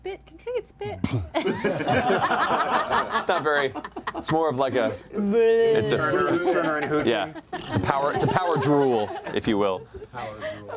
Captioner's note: bear spitting